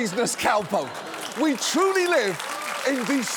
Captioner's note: applause